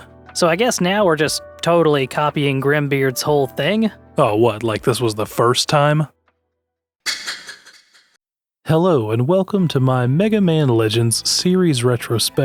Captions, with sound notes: So I guess now we're just totally copying Grimbeard's whole thing? Oh, what, like this was the first time? *Ominous snicker* Hello and welcome to my Mega Man Legends series retrospective.